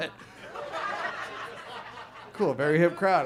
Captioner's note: audience laughs